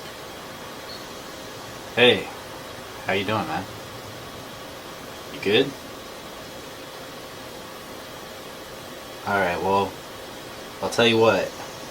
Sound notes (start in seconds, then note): none